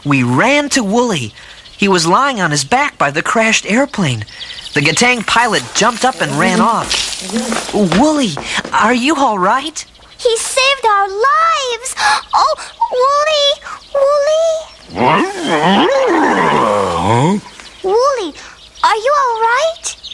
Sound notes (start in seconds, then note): 14.8 grumbling noises